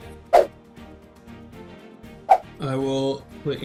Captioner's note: whooshing